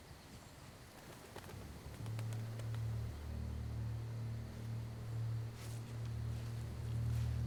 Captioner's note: wings flapping; ominous music